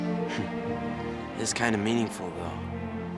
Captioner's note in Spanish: se ríe